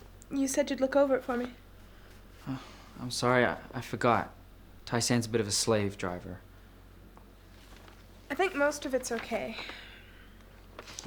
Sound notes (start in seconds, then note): none